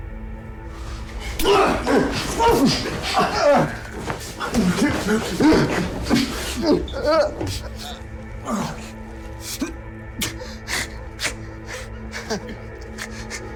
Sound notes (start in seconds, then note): 0.8 both grunting; 10.2 Steven gasping